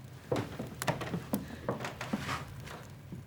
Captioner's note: footsteps